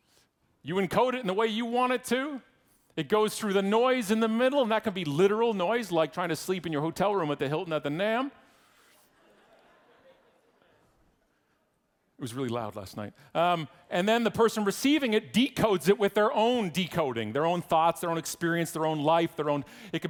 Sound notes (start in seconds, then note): 9.1 audience laughing